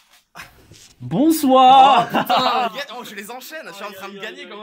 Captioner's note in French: rires